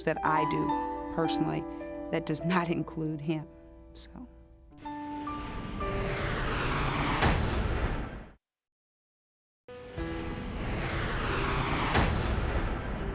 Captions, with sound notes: that I do personally that does not include him. So-- [SHIMMER] [MUSIC PLAYING, SHIMMER]